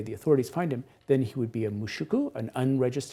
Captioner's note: speaks Japanese